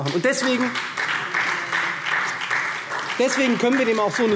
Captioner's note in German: Beifall SPD